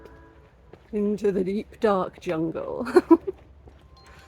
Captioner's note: laughing